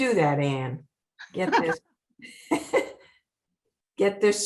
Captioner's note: laughing